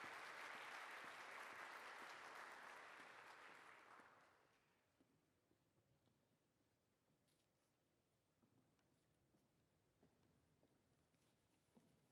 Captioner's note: applause